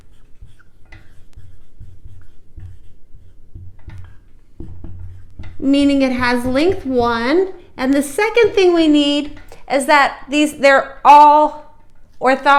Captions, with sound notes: [ Writing ] -- meaning it has length 1. And the second thing we need is that they're all orthogonal.